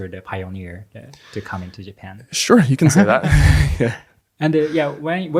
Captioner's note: laughs